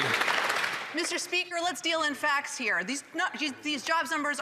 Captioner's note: applause